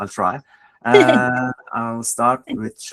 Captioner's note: laughs